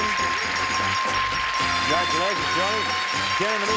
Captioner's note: bell dinging